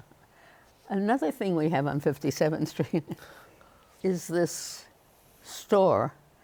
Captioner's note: chuckles